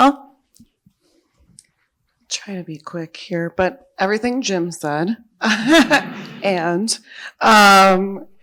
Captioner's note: laughs